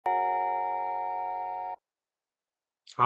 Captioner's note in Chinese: 鈴聲